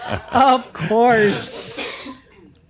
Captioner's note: laughter